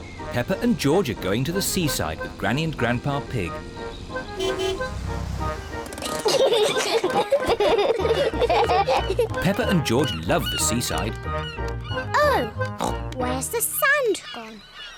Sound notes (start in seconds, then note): 4.1 honks horn; 5.9 peppa and george giggle